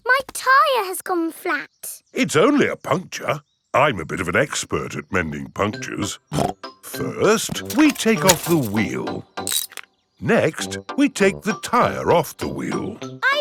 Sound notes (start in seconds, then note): 6.3 snorts